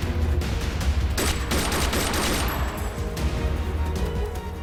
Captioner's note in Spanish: Disparos